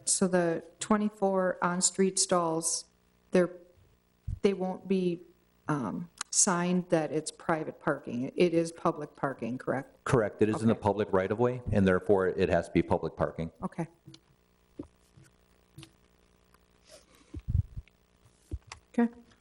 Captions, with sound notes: so the 24 on street stalls, they're, they won't be, um, signed that it's private parking. It is public parking, correct? Correct. It is in the public right of way, and therefore it has to be public parking. Okay. (silence)